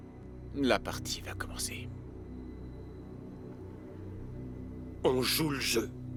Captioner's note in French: gangster parlant une langue étrangère